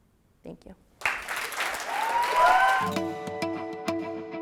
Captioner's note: applause